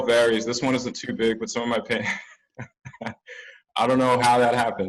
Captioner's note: laughs